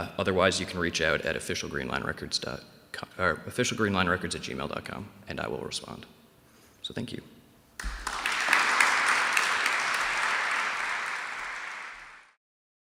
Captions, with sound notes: Otherwise, you can reach out at officialgreanlinesrecords.com-- officialgreenlin erecords@gmail.com and I will respond. So, thank you. [APPLAUSE]